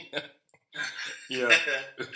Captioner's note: laughter